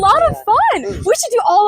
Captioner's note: villager sound